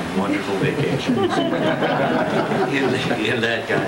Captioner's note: laughter